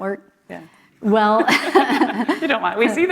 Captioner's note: laughter